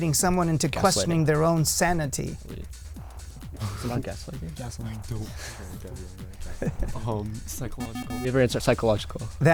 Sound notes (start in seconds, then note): 4.0 wispering